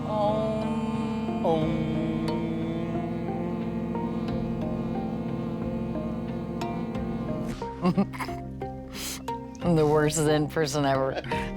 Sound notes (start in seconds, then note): 7.8 chuckling